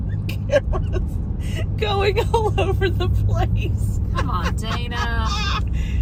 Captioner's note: giggling about the camera moving